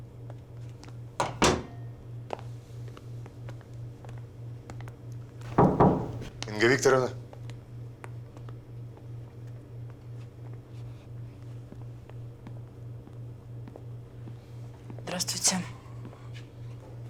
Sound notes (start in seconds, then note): 1.2 door clicks shut; 5.4 knocks on door